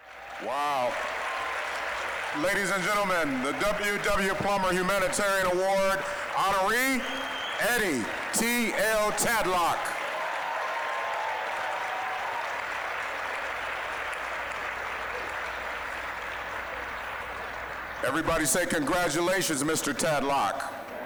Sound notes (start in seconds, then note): 0.2 applause; 10.7 applause, cheering; 13.8 applause